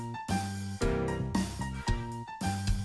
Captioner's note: none